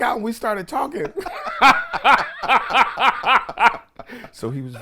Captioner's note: everyone laughs